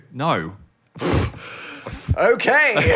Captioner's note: scoffs